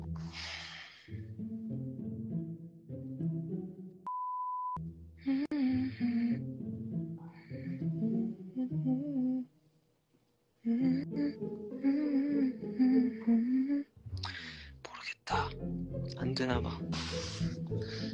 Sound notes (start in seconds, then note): 4.7 humming the stress away